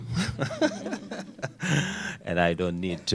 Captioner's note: laughter